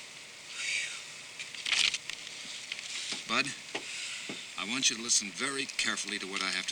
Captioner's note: Sandy exhales worriedly